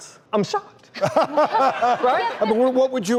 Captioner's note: laughing